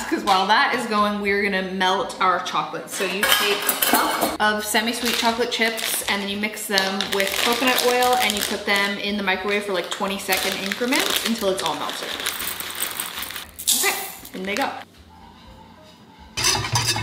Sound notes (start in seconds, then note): 12.2 bag rustling; 12.2 chocolate chips pattering; 15.3 chocolate chips pattering